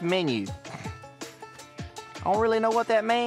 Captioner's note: scoffs